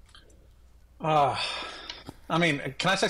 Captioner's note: sighs